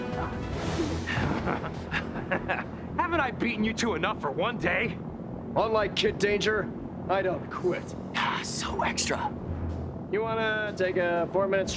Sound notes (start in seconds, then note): 1.0 chuckles